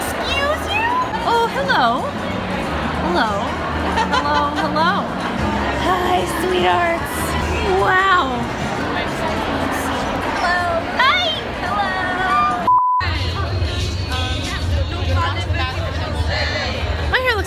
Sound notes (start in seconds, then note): 12.6 beeps; 13.0 people chattering